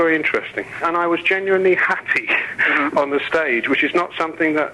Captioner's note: chuckles